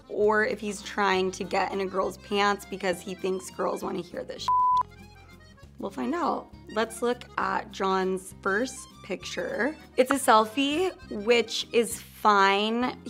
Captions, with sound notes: or if he's trying to get in a girl's pants because he thinks girls wanna hear this (beeps). We'll find out. Let's look at John's first picture. It's a selfie, which is fine.